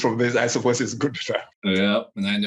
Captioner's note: microphone cuts out